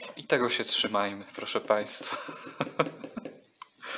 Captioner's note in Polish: śmiech